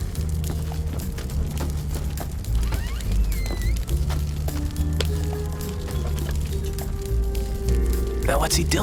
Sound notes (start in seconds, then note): 2.4 door creaks